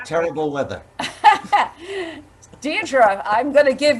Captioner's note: laughs